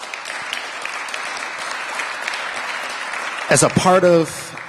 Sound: applause

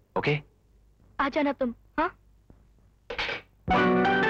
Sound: receiver hang up; playing piano

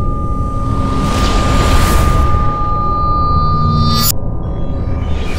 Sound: space ship swooping

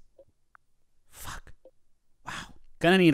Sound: whispering

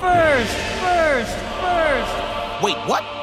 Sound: echoing

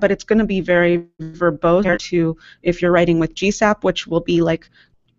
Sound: audio blurps

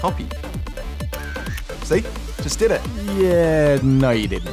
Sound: camera clicks

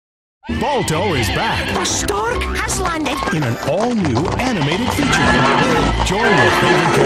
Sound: happy neighs intensify

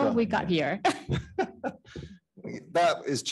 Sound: panelists laughing

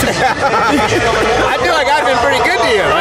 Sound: laughing

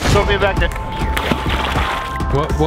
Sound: water splashes

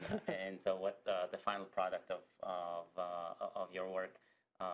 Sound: laugh

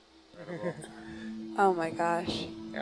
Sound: navigator chuckling

